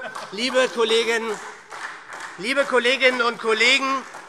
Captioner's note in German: Heiterkeit und Beifall SPD und DIE LINKE